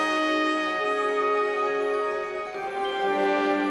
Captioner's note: none